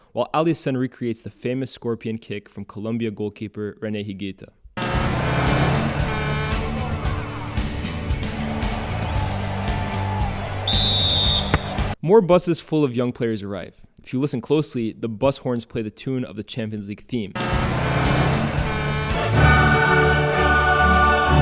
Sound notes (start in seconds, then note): 8.9 crowd cheering; 10.0 whistle blowing